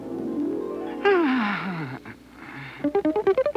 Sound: sighs

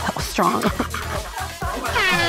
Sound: laughter

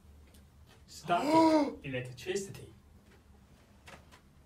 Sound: gasps

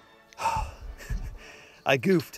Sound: sigh

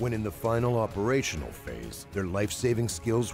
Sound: voiceover

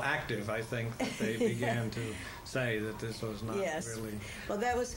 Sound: laughter

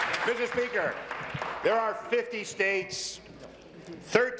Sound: applause

